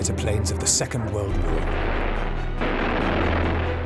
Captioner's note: engine roaring